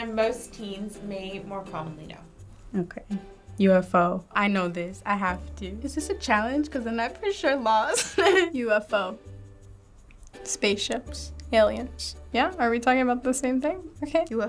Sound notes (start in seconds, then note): 7.9 laughs